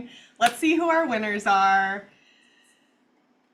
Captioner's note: claps